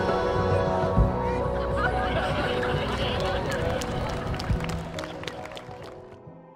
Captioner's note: laughter Cheering and Applause